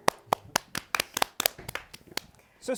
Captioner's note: applause